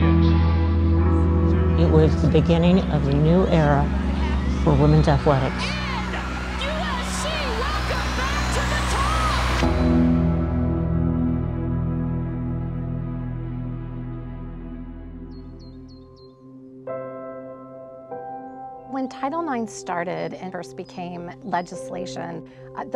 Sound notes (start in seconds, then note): 0.3 gentle music; 9.6 gentle music; 15.2 bird chirping; 16.8 gentle music